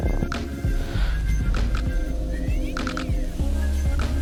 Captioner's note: calm upbeat music; wing whooshing